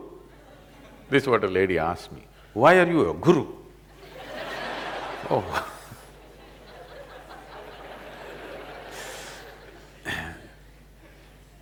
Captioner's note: laughter; laughs